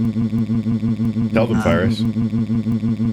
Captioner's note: Fyrus noises